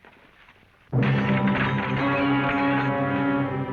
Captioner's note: glass shattering